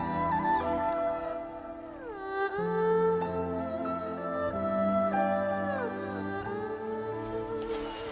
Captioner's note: footsteps